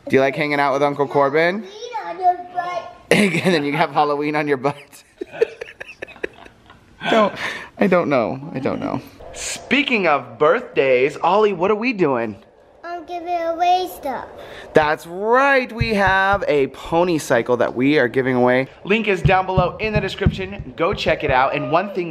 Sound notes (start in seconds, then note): 4.8 laugh